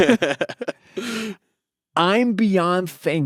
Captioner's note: laughing